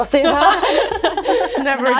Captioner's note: group laughs